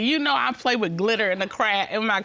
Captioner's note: none